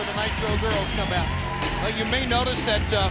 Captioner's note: crowd cheering